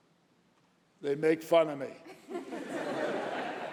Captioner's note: laughter